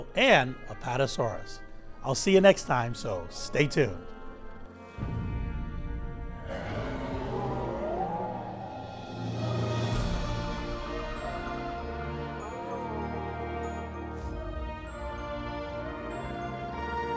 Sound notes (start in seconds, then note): 6.4 dinosaur roars; 9.6 majestic music